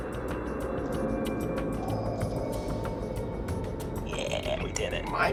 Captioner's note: grinding stone rotates